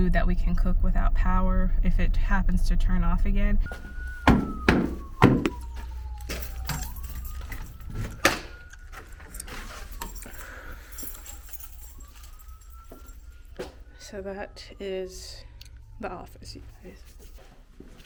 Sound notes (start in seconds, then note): 3.7 feet banging; 6.1 keys jingling; 8.0 door clicking; 10.0 siren blaring